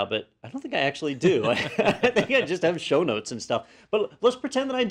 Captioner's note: laugh